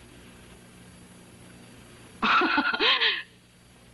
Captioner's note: laughs